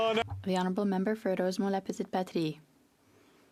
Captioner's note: some Applause